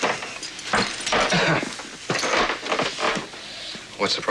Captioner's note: clearing throat